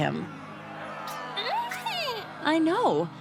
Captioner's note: squeaking